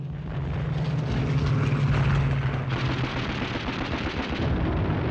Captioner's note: guns firing